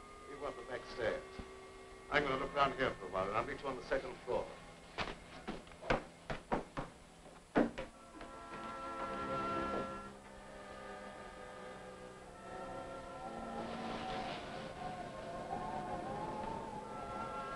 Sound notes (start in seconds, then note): 4.9 pensive music; 6.2 footsteps thudding; 12.2 wind howling; 12.5 pensive music